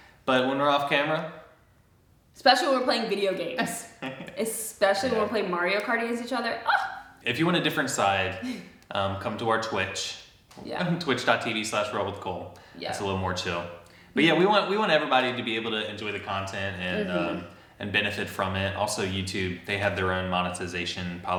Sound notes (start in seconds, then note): 4.0 laughs; 8.4 chuckles